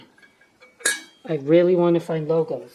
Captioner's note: ding